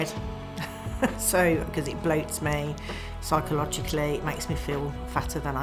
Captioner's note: laughs